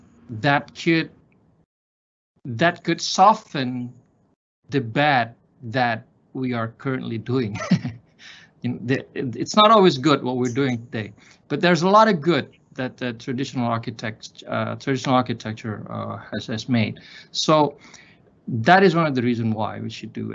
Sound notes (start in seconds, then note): 7.5 laughs